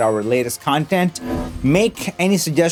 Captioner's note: metallic whooshing sound from icon